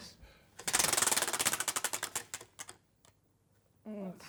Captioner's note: ratcheting